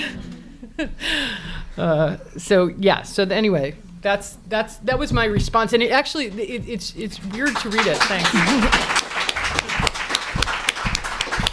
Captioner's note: applause